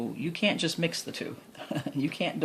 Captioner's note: laughs